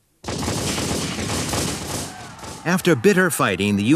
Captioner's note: guns bang